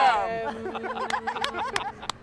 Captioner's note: laughing